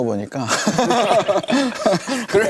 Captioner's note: haha